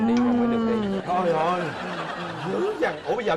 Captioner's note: laughing